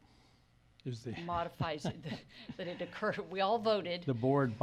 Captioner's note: laughs